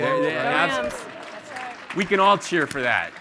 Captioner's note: audience applauding